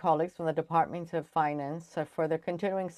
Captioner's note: speaking French